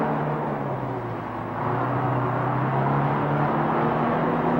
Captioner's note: truck engine whirring